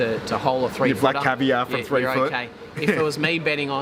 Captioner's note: laughing